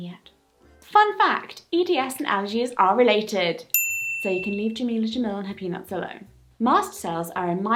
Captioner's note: bell sfx